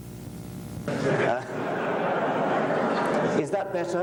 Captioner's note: laughter